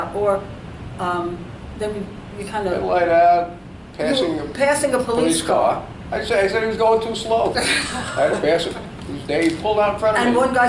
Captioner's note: laughs